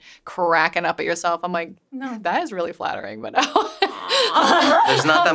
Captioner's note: laughs